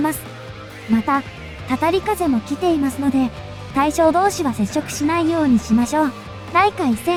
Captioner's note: ominous Wind